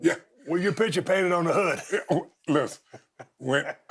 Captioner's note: chuckles